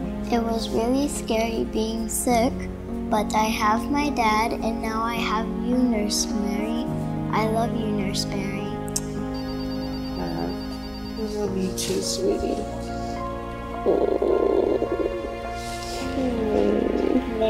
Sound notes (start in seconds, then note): 9.3 telephone ringing; 13.6 relaxing piano music